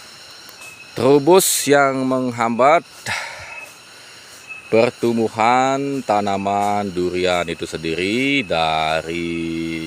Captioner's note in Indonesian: menghela napas